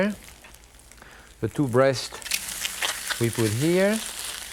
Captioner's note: meat sizzles